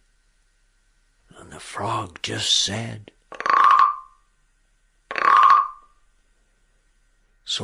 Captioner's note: frog sound effect